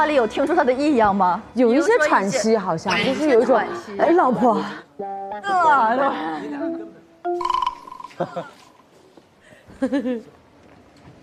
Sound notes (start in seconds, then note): 7.3 laughter; 8.1 the investigators burst out laughing